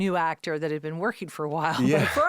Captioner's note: laughing